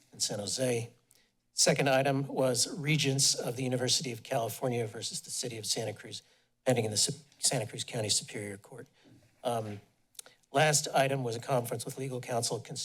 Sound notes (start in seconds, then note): 9.6 smacks lips